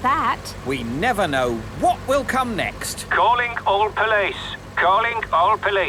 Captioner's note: radio